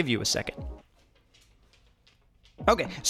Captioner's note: footsteps